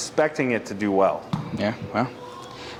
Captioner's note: club-head thumping